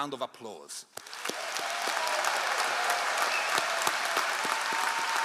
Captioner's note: all applauding